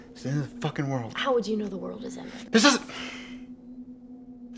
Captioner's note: yelling